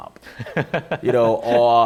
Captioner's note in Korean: 웃음